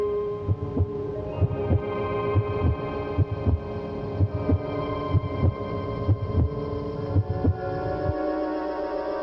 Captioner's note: heartbeat